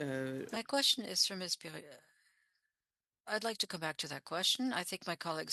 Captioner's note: speaking French